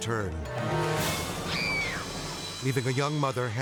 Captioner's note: screams